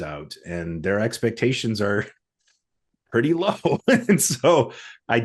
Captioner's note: laughs